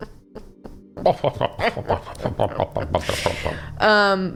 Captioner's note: pompous laughter; fake laughter